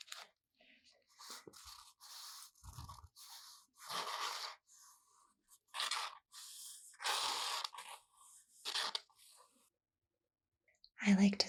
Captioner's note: paper rubbing sounds